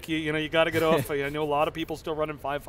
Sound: chuckles

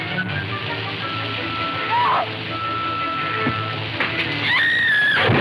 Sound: woman screaming; water splashing

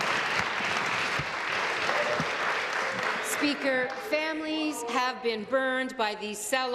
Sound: applause

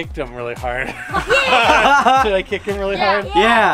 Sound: all laughing

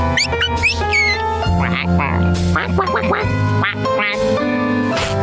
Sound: quacking; chirping

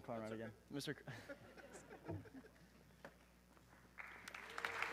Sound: group laughs; audience clapping

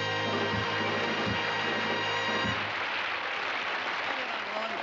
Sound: applause

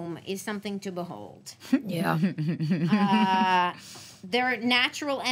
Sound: laughs

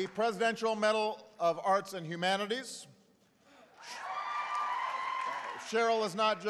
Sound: applause

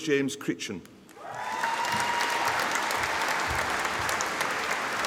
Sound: audience applauding

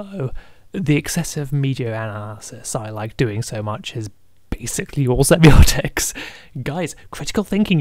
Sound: laughing

